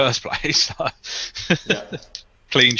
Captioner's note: laughs